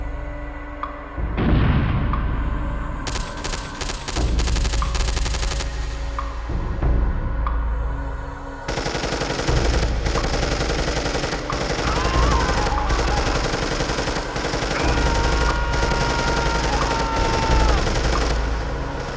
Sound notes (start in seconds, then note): 3.0 gunfire; 12.4 gunfire; 12.4 piercing battle cry